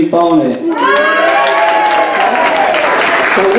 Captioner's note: cheers